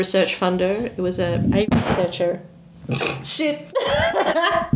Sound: microphone crashes to table; laughs

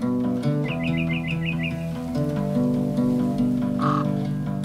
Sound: birds trilling

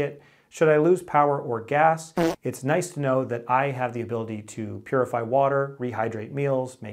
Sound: fart sound

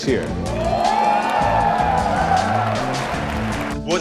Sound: shocked and excited cheers

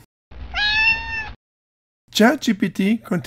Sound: meow

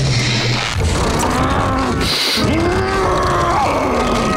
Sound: growling

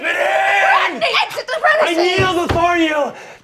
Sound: speaking foreign language

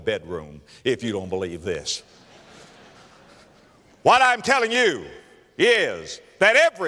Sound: audience laughter

